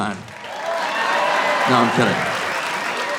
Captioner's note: audience cheering